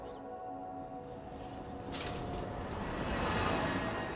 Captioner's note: cars whirring